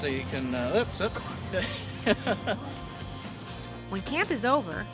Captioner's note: laughs